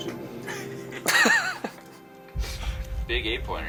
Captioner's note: group laughing